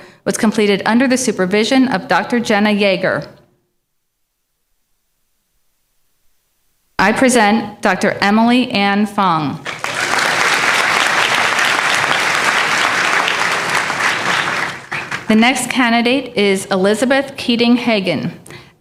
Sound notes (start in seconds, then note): 9.6 applause